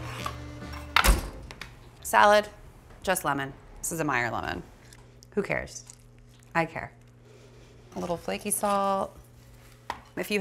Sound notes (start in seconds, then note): 0.9 oven door closes